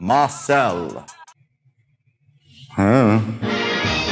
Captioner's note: confused Grunt